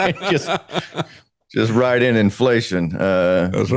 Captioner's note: laughing